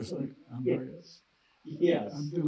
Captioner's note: laughing